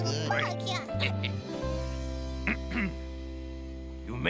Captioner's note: clears throat